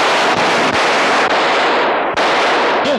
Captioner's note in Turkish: Silah sesleri